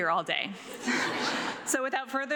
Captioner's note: audience laughs